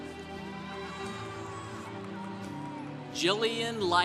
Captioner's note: congregation cheering